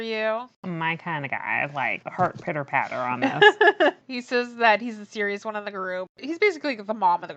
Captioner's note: laughs